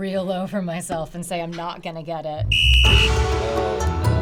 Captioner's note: whistle blows